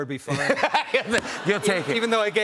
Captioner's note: laughter